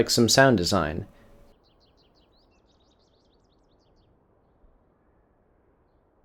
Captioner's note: birds